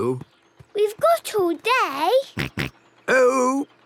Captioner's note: snort